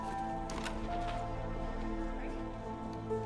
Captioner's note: door latch clicks; mystical music